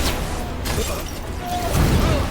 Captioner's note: women screaming; glass shattering; dramatic music